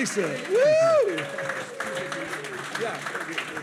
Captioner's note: audience applauding